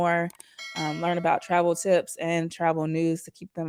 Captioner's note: notification ding